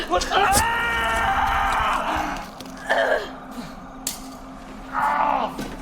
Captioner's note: Dimitri screams